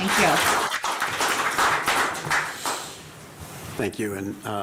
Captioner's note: applause